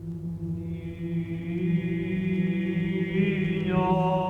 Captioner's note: chanting